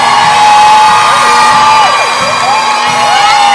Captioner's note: crowd cheering